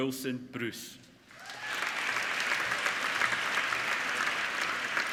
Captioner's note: applauding